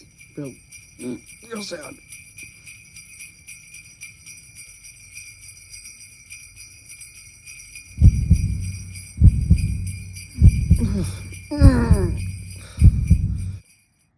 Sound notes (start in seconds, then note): 8.0 Billy Groaning and Cringing